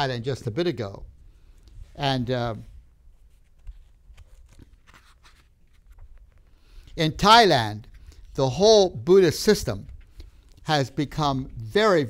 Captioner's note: papers rustle